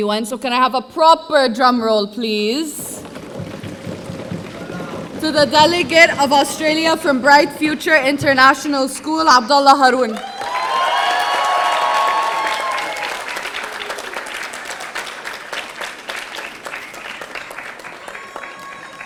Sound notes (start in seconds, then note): 3.1 audience drumming; 10.4 audience applauding; 10.4 audience cheering